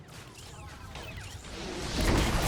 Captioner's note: electronic beeping